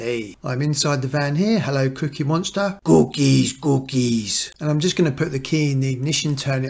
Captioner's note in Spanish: voz del monstruo de las galletas